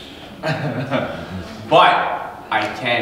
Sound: chuckle

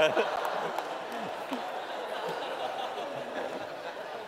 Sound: laughter

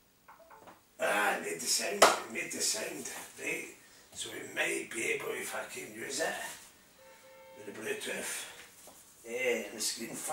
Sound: clap

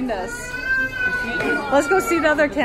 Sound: baby wailing

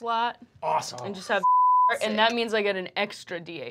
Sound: beep

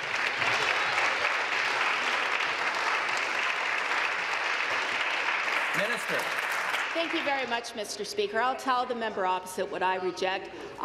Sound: applause

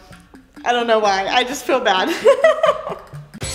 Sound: giggles

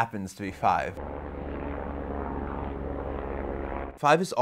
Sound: airplane engine sound

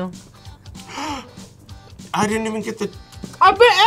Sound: gasps

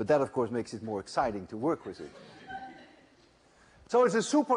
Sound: laughter

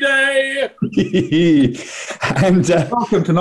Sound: gleeful chuckling

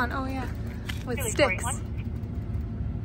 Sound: laughs

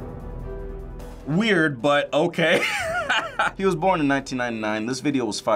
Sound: laughs

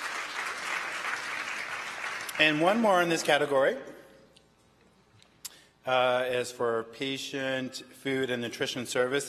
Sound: applause

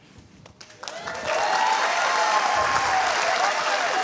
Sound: cheers and applause

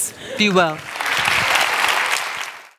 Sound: applause

